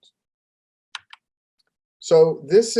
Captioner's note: keyboard clanking